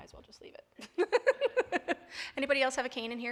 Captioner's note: laughing